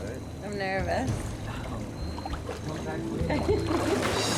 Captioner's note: laughs